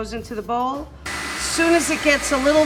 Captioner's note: mixer whirring